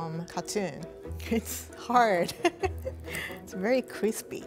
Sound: laughing

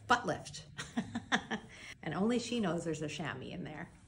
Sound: laughs

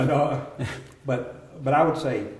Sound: laughter

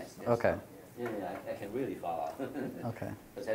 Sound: laughter

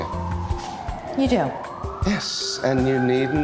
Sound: sirens wailing

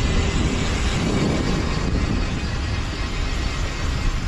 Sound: air whooshing

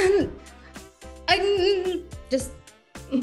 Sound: grumbling; upbeat music

